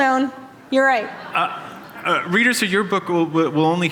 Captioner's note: laughter